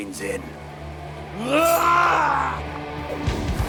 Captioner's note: yelling; dramatic music